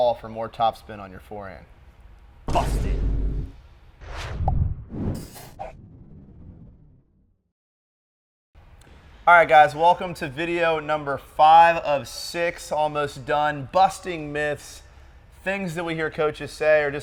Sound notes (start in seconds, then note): 2.5 sign thuds; 4.0 logo whooshes